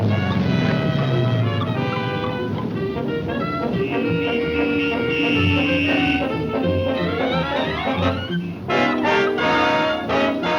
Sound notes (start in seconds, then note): 0.0 tense music; 0.2 brakes squealing; 4.3 car horns honking